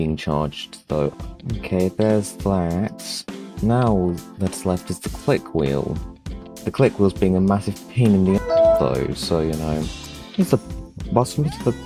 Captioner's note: windows 7 log off sound